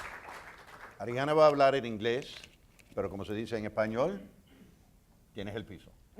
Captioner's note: speaking in foreign language